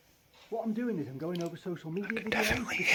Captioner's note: voice changes